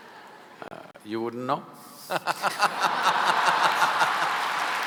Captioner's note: laughter/Applause